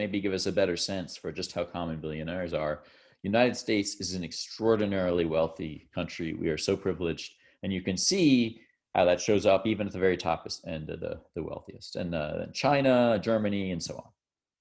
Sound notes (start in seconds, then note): none